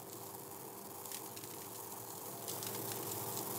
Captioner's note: trickling